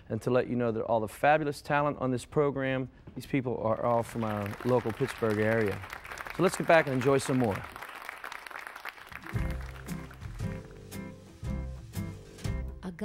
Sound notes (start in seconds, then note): 7.7 audience applauding; 9.2 gentle pop music